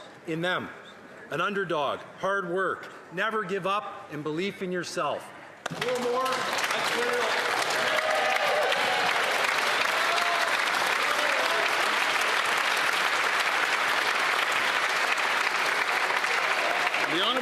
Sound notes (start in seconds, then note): 12.8 applause